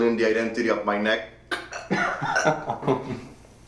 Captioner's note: mimicking choking; Manny laughing